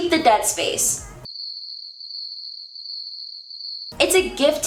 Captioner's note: crickets